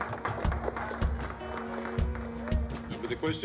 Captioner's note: applause